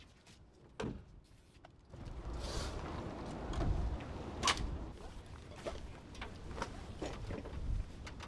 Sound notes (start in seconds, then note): 2.0 vehicle pulls up